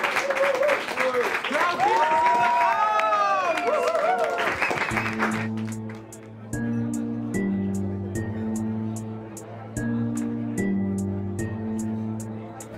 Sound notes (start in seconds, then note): 0.0 applause and cheers; 5.0 rap music